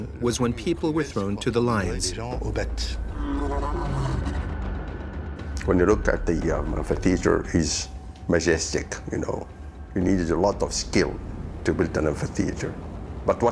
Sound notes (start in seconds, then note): 3.0 lion roars